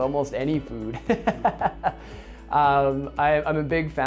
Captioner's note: laughing loudly